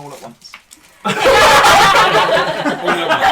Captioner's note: laughter